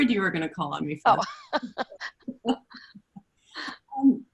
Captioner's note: laughs